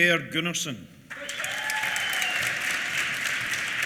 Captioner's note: applause